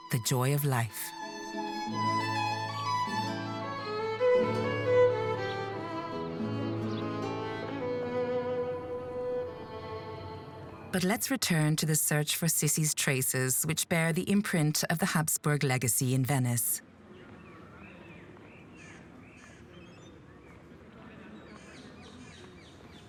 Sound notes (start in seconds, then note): 1.8 elegant classical music; 17.2 birds chirping